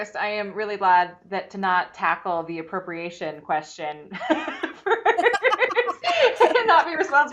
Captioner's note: laughs